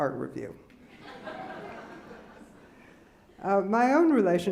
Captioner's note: laughing